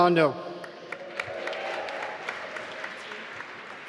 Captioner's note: applause